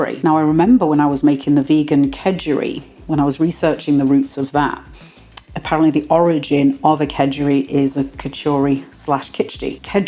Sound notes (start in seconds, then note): none